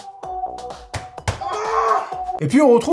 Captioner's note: horny animal noises